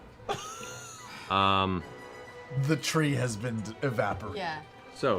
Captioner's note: laughs